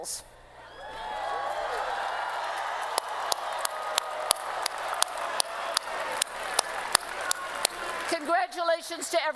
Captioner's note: cheering and Applause